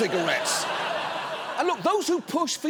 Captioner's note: audience laughing